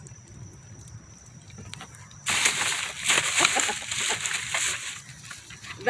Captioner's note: laughing